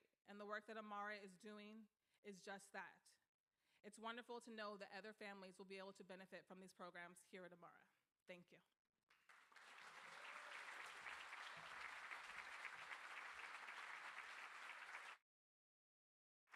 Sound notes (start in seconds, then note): 9.1 crowd applauding